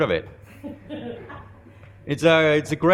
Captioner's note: laughing